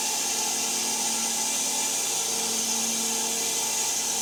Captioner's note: saw buzzing